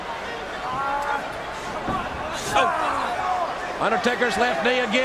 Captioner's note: Undertaker growl